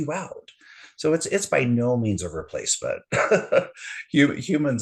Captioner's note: haha